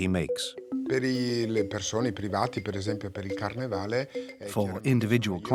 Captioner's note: Italian spoken audio